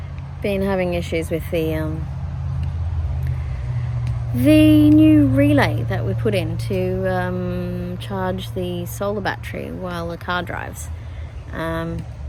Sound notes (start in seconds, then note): none